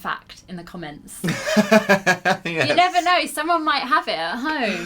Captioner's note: laughter